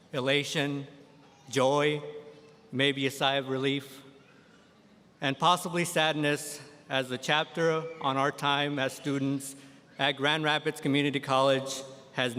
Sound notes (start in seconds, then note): none